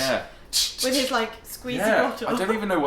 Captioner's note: spraying